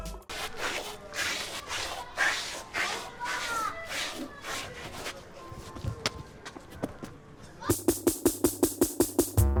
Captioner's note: scraping feet on concrete